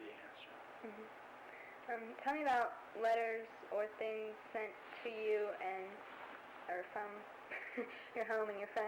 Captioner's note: laughs